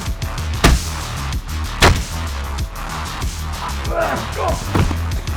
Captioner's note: fighters moaning; upbeat music